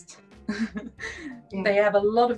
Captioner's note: chuckles